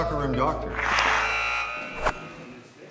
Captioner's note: goal buzzer